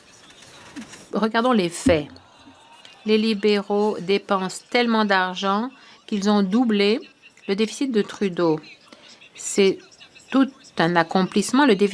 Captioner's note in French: voix de l'interprète